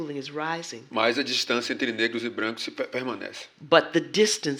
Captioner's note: speaking portuguese